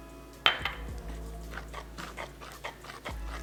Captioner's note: sound of whisk scrapping against bowl